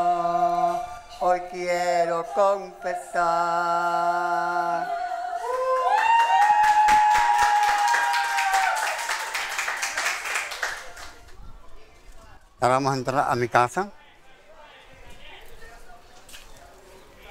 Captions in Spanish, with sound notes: (Vítores y aplausos) Ahora vamos a entrar a mi casa.